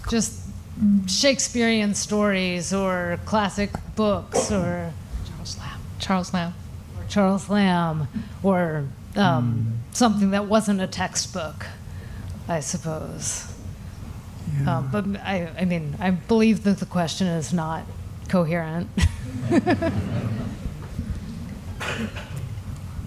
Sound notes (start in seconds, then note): 19.0 laughter